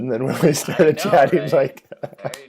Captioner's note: laughter